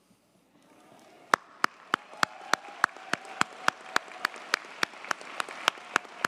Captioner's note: audience cheers and applauds